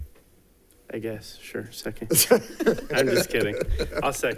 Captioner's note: people laughing